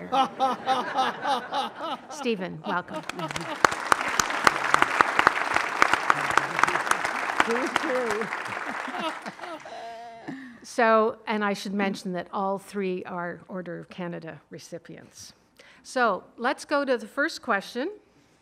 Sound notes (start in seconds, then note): 0.3 all laughing; 2.7 audience applauds; 8.8 laughing